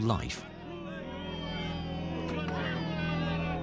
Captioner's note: peasants shouting